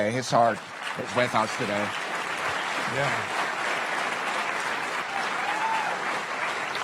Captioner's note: cheerand Applause